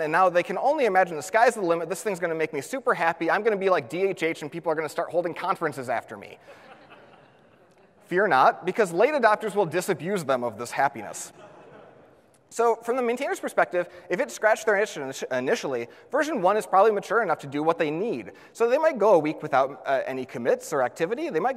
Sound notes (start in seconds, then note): 6.5 audience laughs